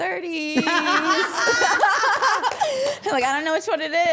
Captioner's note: all laughing